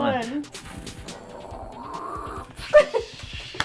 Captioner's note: rocket launch noise; laughing